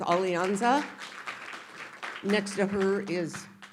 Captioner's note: audience applauding